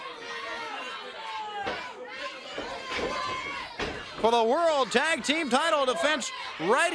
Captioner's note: crowd chatter